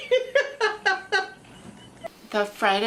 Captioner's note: laughs